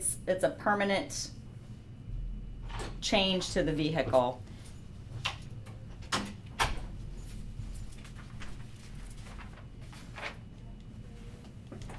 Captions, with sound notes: it's a permanent change to the vehicle. (pages rustling)